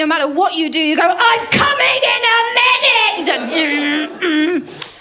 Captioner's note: shouts